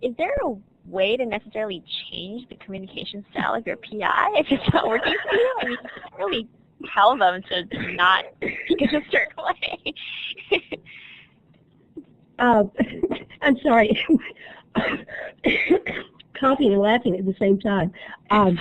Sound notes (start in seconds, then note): 4.5 laughter; 11.1 laughter